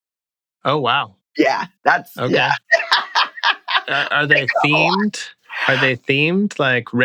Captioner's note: laughter